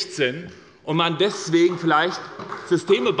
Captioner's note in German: Beifall bei der SPD